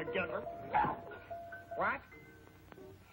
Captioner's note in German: huffs